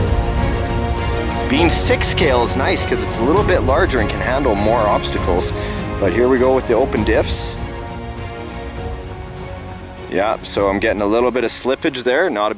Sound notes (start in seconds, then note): none